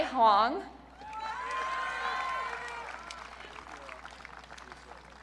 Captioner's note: audience cheering